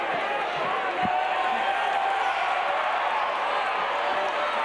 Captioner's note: audience cheering